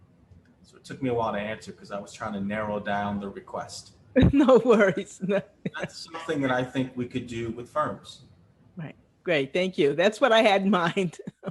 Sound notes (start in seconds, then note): 4.6 laugh; 11.0 laugh